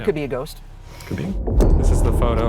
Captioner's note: audio whooshing